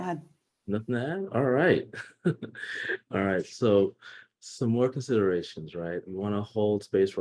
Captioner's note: chuckle